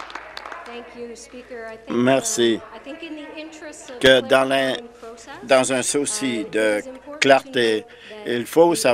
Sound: some Applause

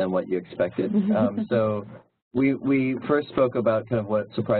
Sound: laugh

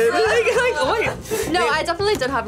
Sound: both laugh

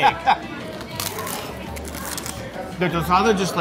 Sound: laughing; crunching

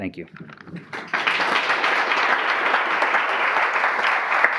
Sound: audience applause

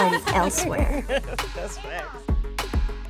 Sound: laughs

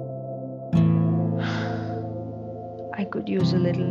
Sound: gasps

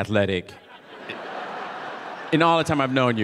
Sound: audience laughing

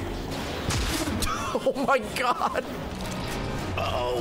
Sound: laughs

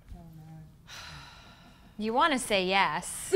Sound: sighs

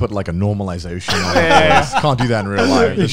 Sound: laugh

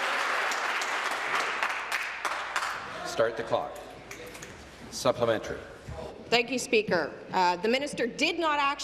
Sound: applause

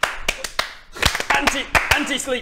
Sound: clap clap clapclapclap; clapclapclapclap clap clap

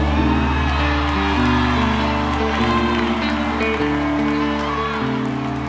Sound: audience cheers

